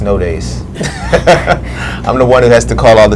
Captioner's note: laughs